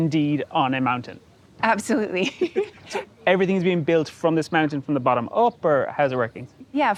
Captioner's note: laughing